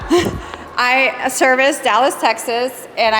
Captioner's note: audience Laughing